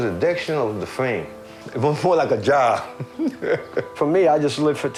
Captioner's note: chuckles